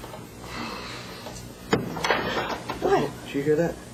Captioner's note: thud